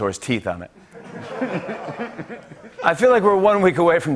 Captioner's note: laughter